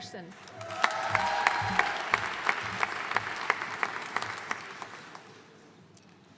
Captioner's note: audience cheering and applauding